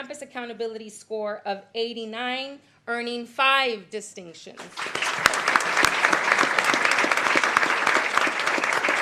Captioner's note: applause